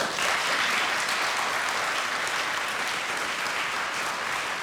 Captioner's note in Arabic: الجمهور يصفق